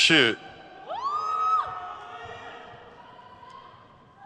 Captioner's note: crowd cheers